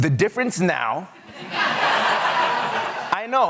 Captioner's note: laughter